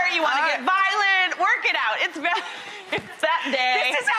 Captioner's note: laughs